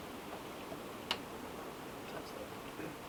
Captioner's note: none